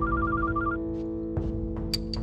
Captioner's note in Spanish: suena el celular